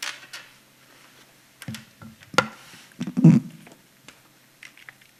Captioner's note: shuffling